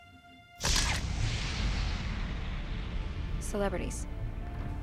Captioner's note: sharp echoing camera bulb bursting